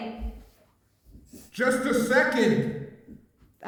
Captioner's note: male Voice